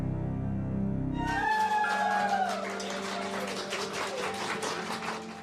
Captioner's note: cheering, applause